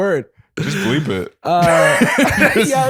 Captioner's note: laughter